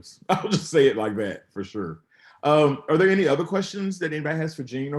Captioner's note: chuckles